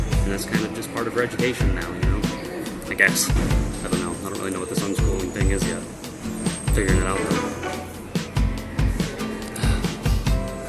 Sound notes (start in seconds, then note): 9.4 sighs